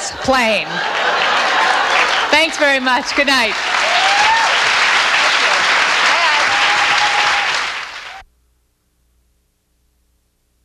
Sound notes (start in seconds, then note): 0.0 audience laughs; 3.7 audience cheers; 8.2 audience applauds